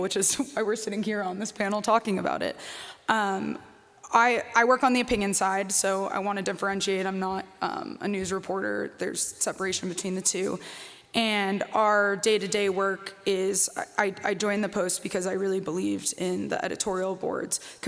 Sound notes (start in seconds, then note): none